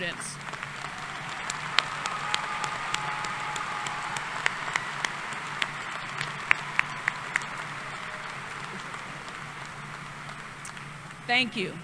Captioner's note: applause